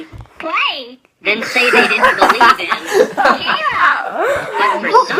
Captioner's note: laughter